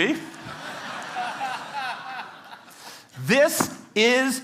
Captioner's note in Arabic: ضحك